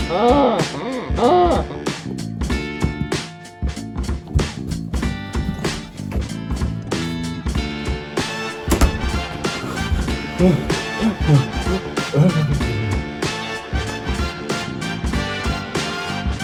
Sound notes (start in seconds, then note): 0.1 80s chase music; 0.1 stag bellows; 1.9 80s chase music; 5.3 door opening; 5.4 80s chase music; 8.6 door close; 8.8 panting from Crimp; 9.1 80s chase music